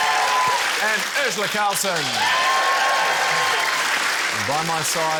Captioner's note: cheering, applause